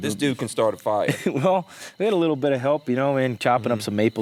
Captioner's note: laughs